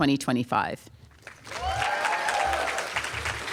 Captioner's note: applause